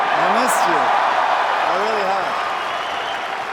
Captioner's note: cheers and applause